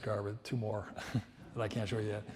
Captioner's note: laughs